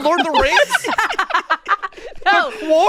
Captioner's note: everyone laughing